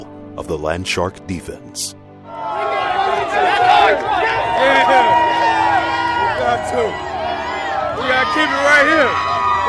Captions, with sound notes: of the Landshark defense. (crowd cheering and yelling) - We gotta keep it right here.